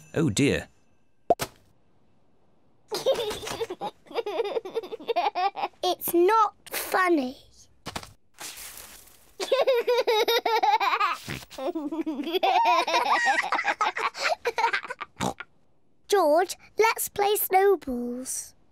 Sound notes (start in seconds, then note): 2.9 giggles; 9.4 laughs; 11.5 giggles